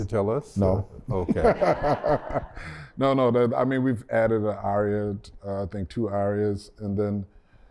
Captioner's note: laughter